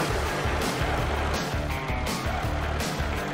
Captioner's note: tractor rumbling